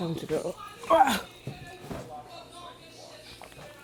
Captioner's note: groans